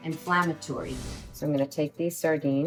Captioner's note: air whooshes